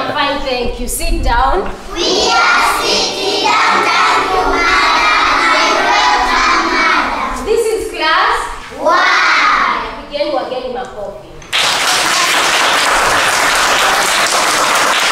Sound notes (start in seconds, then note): 9.9 foreign language; 11.5 children clapping hands